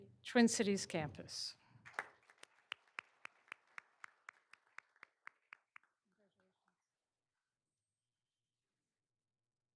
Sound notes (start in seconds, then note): 1.8 all applauding